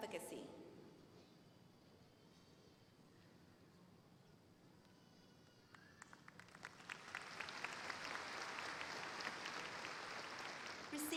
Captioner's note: applause